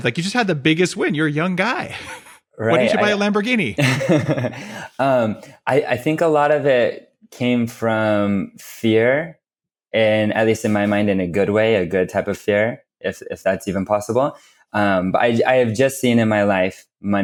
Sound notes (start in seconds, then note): 1.8 laughs; 3.7 laughs